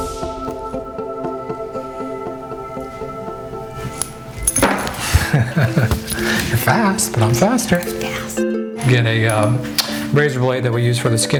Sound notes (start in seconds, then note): 0.3 soft music; 4.6 metal clangs; 4.9 man laughs